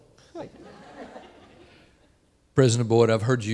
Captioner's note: audience laughing